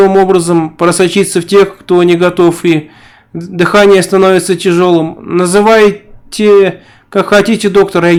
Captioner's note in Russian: дыхание становится тяжёлым